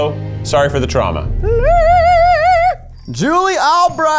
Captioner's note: vocalizes